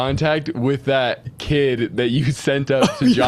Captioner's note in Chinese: 笑声